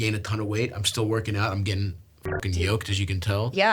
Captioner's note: beeps